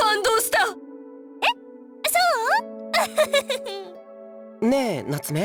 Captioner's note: sheepish chuckle